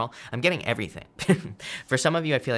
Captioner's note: chuckles